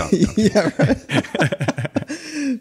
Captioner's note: laughing